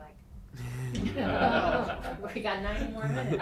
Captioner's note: everyone laughing